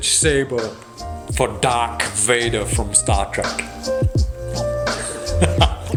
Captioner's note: laughs